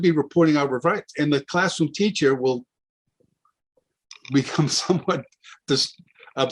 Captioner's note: chuckles